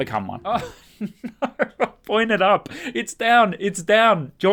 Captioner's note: laughing